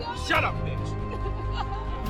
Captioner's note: crying in backseat